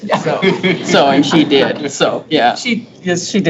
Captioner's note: group laughs